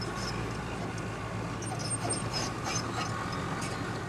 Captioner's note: squeaking